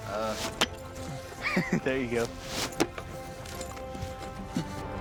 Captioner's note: chuckles